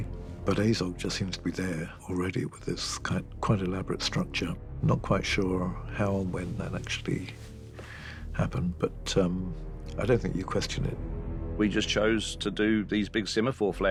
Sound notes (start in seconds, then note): none